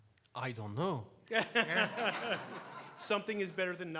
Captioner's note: laughs